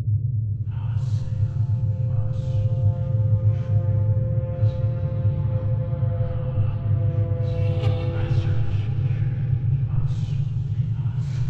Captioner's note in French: Chuchotements